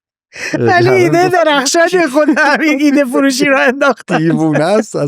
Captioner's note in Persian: خنده